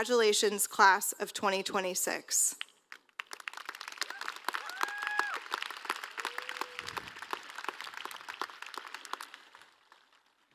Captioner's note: applause